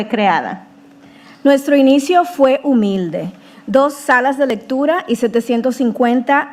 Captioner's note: speaking in foreign language